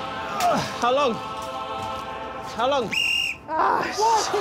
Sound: whistles

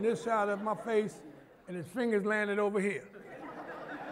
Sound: laughter

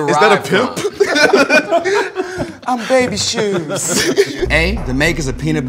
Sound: laugh

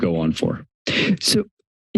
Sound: inhales

